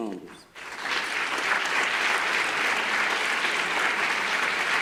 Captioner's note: audience applause